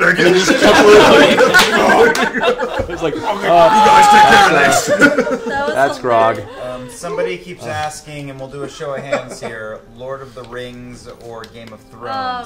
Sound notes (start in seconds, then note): 0.1 all laugh